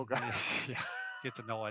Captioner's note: laughing